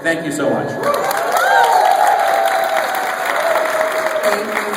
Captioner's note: applause